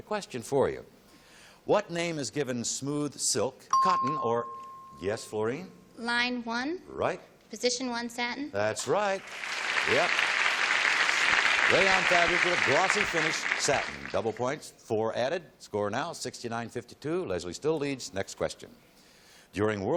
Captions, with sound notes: Here comes another question for you. "What name is given smooth silk, cotton or--" [ping] Yes, Fluorine? - Line 1. - Right. Position 1, satin. - That's right. Yep. [applause] Rayon fabric with a glossy finish, satin. Double points, 4 added. Score now, 69-52. Leslie still leads. Next question.